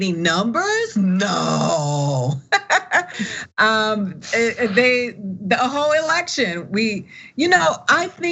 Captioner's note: laugh